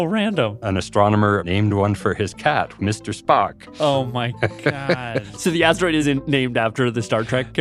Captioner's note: laughs